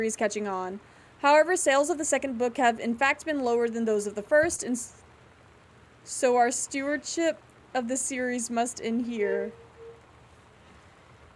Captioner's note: metal Scraping